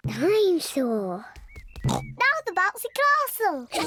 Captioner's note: growls; oinks; kids giggling